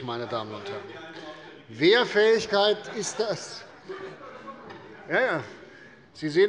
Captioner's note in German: Heiterkeit - Zuruf des Abg